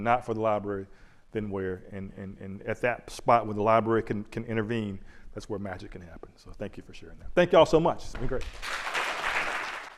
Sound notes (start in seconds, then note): 8.3 applause